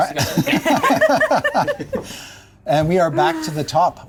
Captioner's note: players laughing